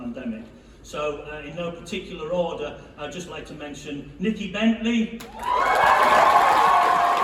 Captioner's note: cheering